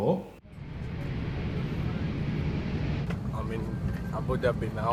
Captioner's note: gentle rumbling aircraft